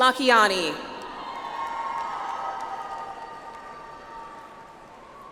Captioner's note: audience applauds